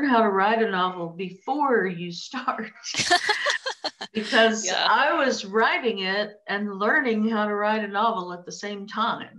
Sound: laughter

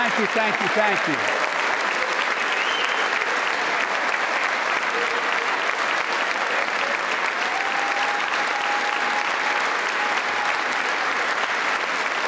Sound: applause

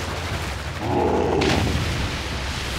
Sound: grunting

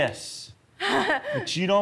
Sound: laughs

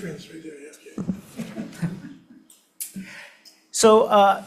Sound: Senators chuckle

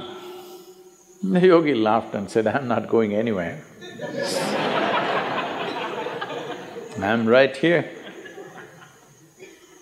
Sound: laughter

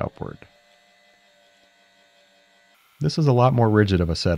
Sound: machine whirring

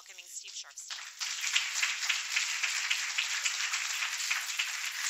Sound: applause

